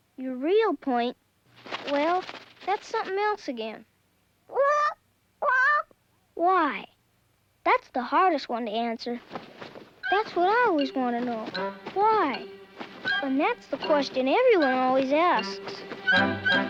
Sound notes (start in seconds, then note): 5.4 squawking